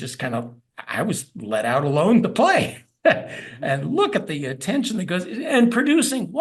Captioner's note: laugh